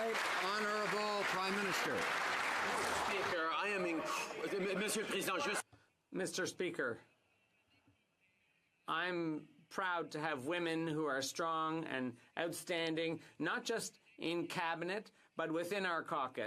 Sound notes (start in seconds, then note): 0.0 applause; 0.0 cheering; 10.5 speaking French